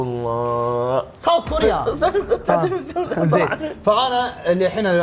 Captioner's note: speaks foreign language